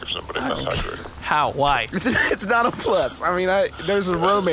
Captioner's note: laughs